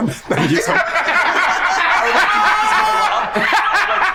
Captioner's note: group laughs